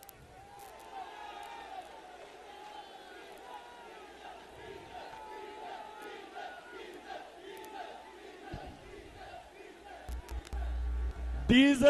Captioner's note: People Shouting Slogans - Diesel: Nickname for Molana Fazlur Rehman